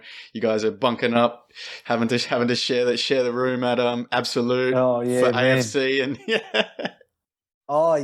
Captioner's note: laughs